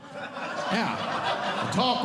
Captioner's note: audience Laughing